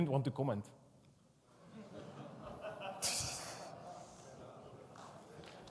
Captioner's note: audience laughs